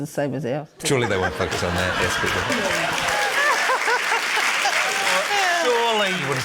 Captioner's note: laughter, cheering, applause